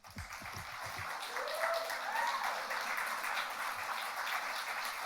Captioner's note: audience applauds